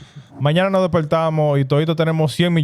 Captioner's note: speaking In Foreign Language